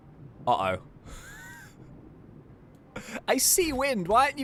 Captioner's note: laughs